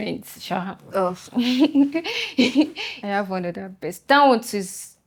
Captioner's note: laughs